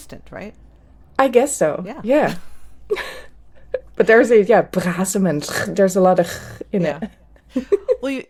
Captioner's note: guttural sounds